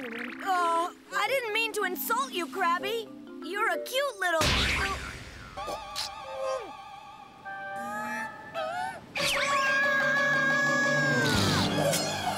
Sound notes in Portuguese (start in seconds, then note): 4.6 Ash gritando; 9.3 gritando em agonia